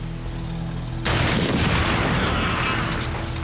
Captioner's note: gunshot